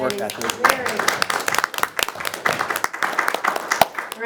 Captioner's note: all applaud